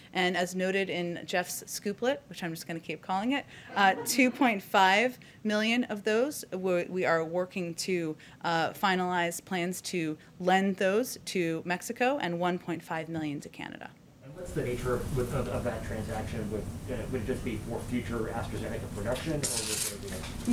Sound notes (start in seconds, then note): 3.7 laughter